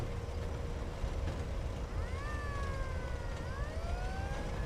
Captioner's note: siren blaring